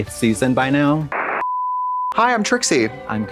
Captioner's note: static crackles